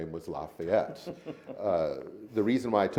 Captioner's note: laughs